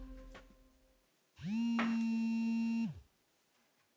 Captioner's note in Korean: 휴대폰 진동음